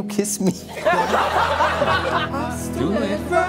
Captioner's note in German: Gelächter